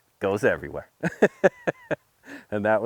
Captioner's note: laughing